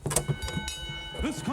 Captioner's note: bell chimes